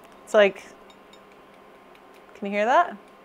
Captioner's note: clacking noises